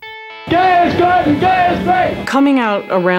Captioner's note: chanting